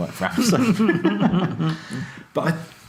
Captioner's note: both laugh